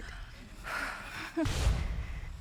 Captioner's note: sighs deeply